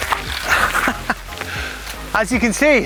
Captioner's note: host laughs